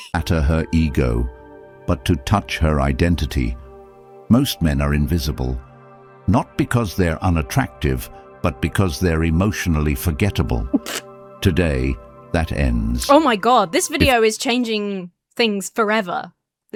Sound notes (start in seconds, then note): 0.3 AI Voice; 10.7 snorts